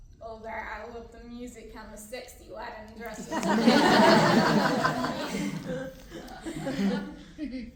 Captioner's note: laughter